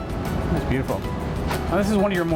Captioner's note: swish